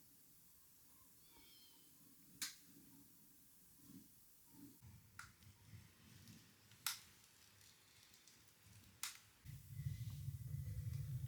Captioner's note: clicking